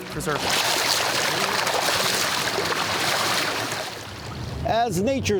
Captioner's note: salmon splashing